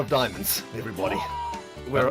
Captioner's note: crowd murmers